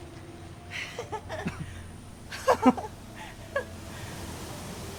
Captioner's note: both laughing